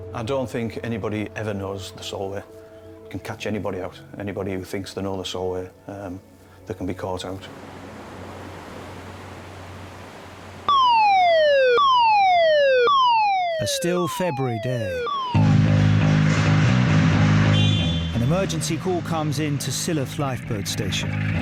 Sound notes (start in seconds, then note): 7.4 waves crash; 10.6 alarm blasts; 15.3 dramatic fast-paced music